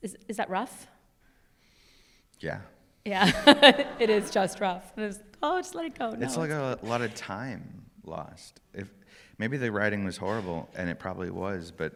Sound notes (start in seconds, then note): 3.1 laughs